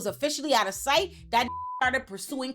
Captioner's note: beep